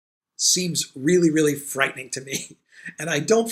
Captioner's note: laughs